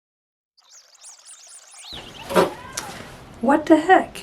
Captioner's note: birds singing sounds